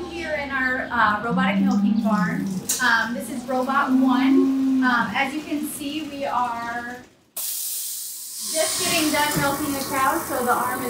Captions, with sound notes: So we have two here in our robotic milking farm. This is robot one. As you can see, we are (machine hisses) just getting done milking a cow, so the arm